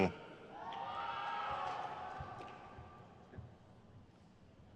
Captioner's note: crowd cheers